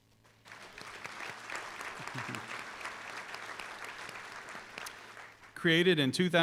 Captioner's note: applause